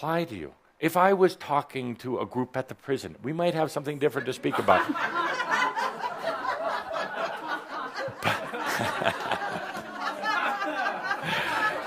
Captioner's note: laughter